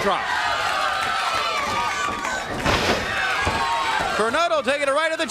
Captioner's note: crowd cheering